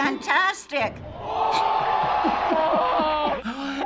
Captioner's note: spectators cheering